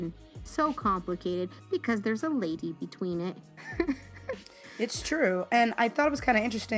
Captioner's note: laugh